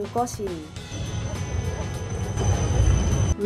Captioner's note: festival shout